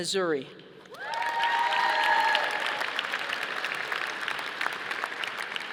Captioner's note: audience applauding